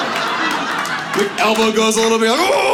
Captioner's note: audience laughs